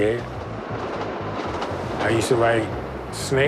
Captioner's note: subway clacking